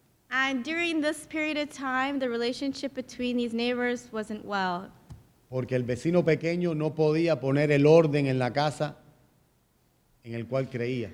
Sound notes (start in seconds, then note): 5.1 speaking in Spanish